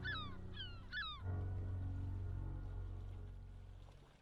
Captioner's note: gulls squawking; slow ominous music